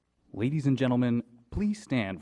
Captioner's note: voiceover